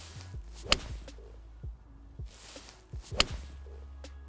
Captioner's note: club strikes